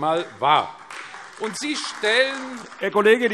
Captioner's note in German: Beifall AfD